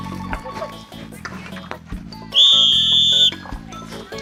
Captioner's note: Guardian's warning whistle